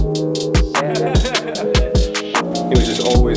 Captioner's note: laughter